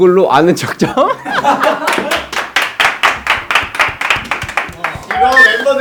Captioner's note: bursts in laughter